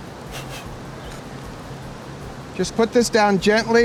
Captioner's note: blows quickly